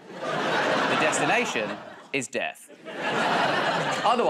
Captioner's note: laughter